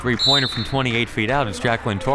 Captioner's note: whistle